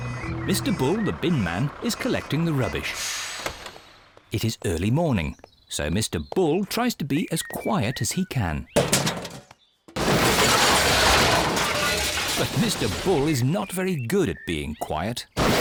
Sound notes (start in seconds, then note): 8.7 garbage clattering